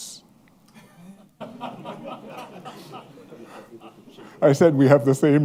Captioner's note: laughter